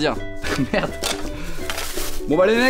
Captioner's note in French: en riant